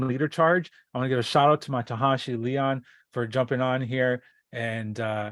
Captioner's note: native language spoken